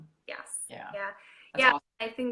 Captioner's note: speaker garbling